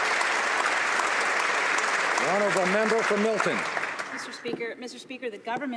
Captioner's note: some Applause